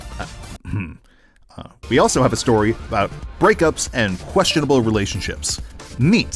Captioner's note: ahem